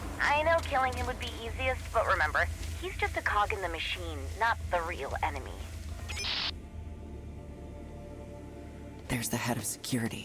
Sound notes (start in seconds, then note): 6.0 beeping